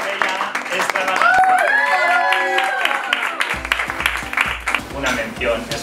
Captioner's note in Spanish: aplausos